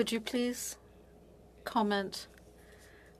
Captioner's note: speaking French